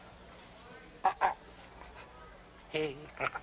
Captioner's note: speaking in constricted voice